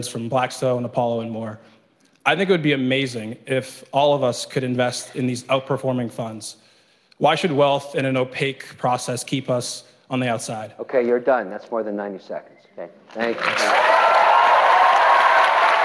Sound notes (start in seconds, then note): 11.7 cheering; 13.2 applause